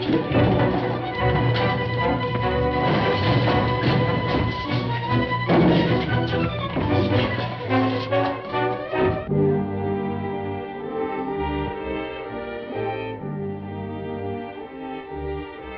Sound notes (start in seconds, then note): 0.2 thuds; 5.2 thud; 9.1 dramatic music